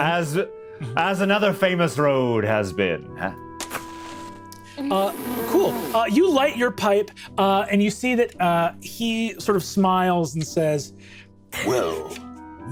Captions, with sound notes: - As another famous road has been. (match striking) - Cool, you light your pipe and you see that he sort of smiles and says, "Well, Mr. Cross,"